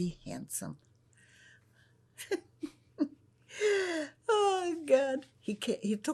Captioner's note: laughing